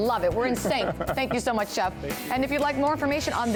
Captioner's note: laughter